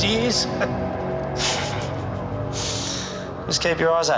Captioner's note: laughs